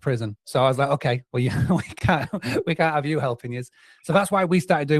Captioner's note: laughs